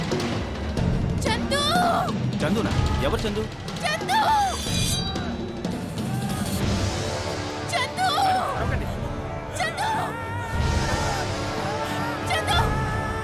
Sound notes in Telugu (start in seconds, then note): none